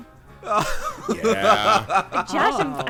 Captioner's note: laughing